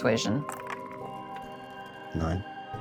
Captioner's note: die rattles